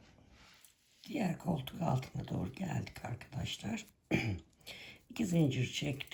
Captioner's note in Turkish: boğazını temizler